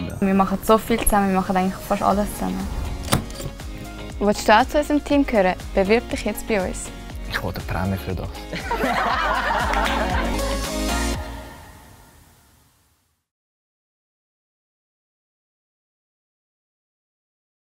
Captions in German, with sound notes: Wir machen vieles, fast alles zusammen. Willst auch du zu unserem Team gehören? Dann bewirb dich jetzt bei uns. Für das will ich eine Prämie! (Alle lachen)